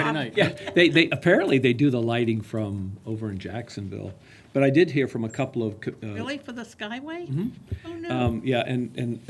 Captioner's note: laughter